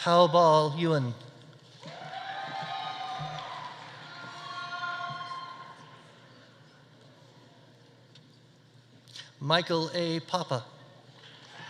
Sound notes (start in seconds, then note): 1.8 audience cheering; 1.9 audience applauding